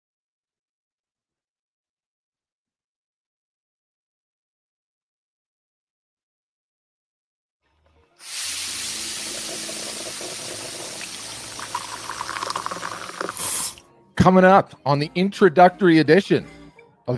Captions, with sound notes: (coffee tap running) - Coming up on the introductory edition